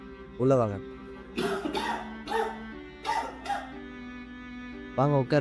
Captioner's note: coughs severely